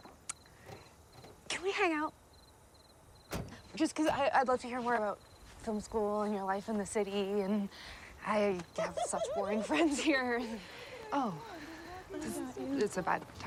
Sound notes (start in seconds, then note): 2.1 car Engine Shuts Off - Door Opens and Closes; 8.7 laughter